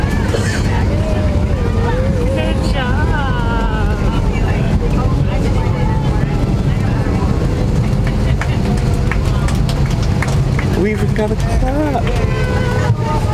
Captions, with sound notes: Good job. (clapping) - We even got a clap!